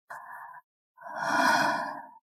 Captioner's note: gasp